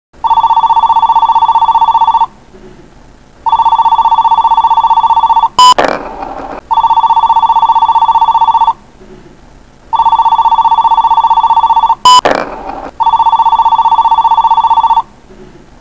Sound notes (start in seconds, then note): 0.2 phone Ringing; 3.4 phone Ringing; 5.6 message Tone; 6.8 phone Ringing; 9.9 phone Ringing; 12.1 message Tone; 13.1 phone Ringing